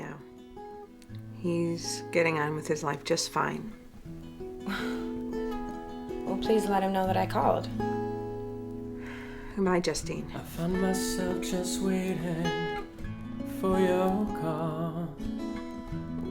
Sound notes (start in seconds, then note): 0.3 soft music; 4.6 Justine scoffs; 14.7 soft music